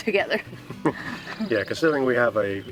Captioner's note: chuckles